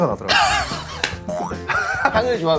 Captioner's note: hmph